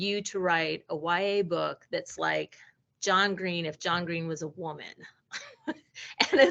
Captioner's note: laughing